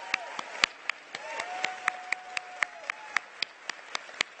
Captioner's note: cheers and applause